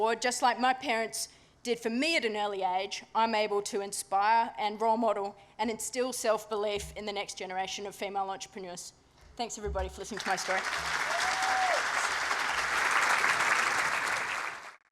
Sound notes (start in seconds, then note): 10.2 cheering, applause